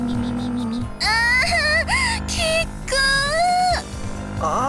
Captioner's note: moan